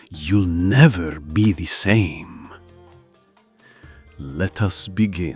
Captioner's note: sound of a deep inhale… and absolute silence